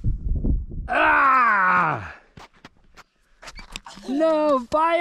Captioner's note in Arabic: يصرخ